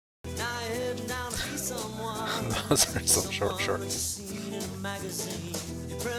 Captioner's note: chuckling